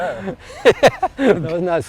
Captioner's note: laughs